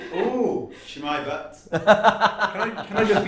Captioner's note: laughter